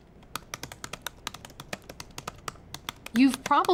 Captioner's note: keyboard typing